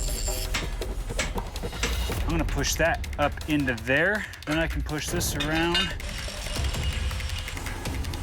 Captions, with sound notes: [hammering] I'm gonna push that up into there. Then I can push this around. [whirring]